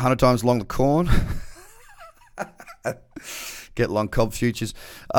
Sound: laughs

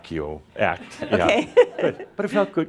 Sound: she chuckles

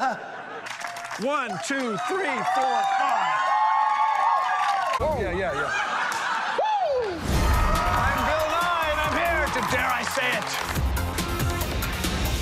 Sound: laughter

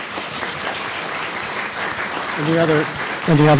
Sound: applause

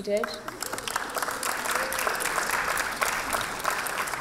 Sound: applause

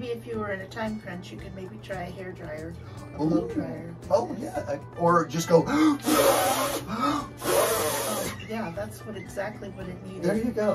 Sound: incessant blowdrying noises

